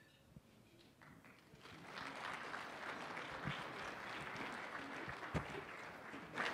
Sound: applause

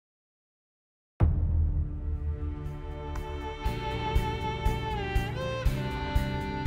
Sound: boom; intense music

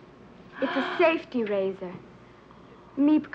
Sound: Petronella gasps

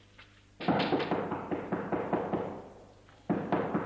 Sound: knocking

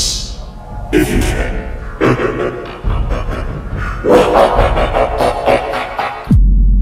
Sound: evil Laugh

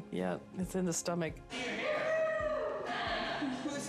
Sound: cheering

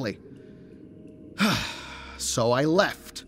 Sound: sigh

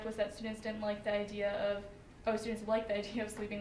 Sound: none

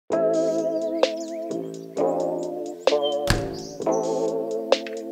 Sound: birds chirping

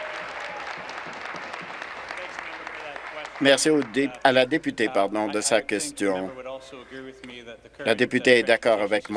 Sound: applause

